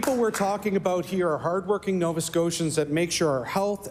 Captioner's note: applause